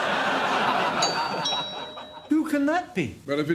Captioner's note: doorbell